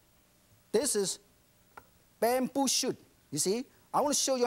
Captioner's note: speaking foreign language